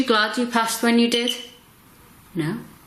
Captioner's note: beeps twice